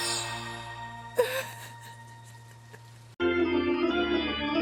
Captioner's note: crying; organ music